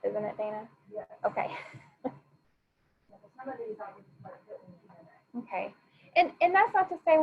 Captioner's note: faintly speaking